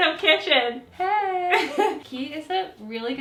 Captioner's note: laughing